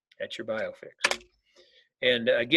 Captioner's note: keyboard clicking